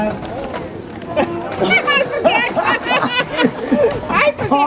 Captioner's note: laughing